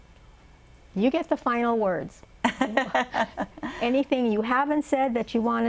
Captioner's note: laughter